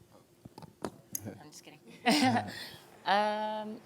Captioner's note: giggling